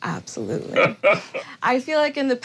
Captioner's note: laughs